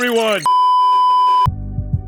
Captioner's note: beeeeeep